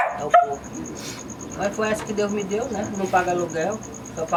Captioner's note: sniffs